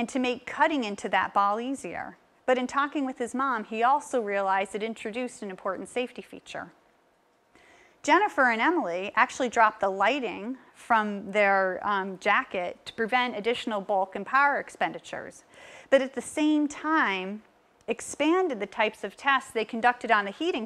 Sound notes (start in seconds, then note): none